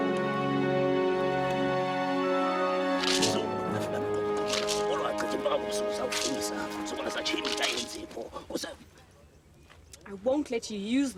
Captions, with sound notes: (gourd rattling) (chanting in foreign language) - I won't let you use this to attack his soul.